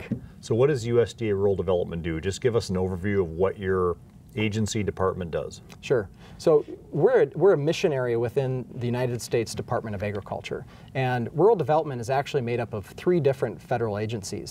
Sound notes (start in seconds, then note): none